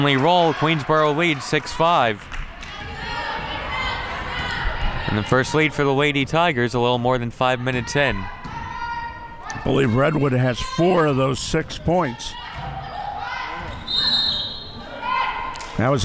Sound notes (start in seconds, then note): 3.3 chanting; 13.7 referee blows whistle